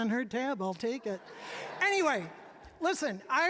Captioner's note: all laughing